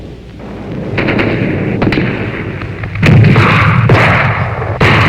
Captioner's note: guns firing